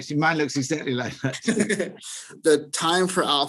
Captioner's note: both laugh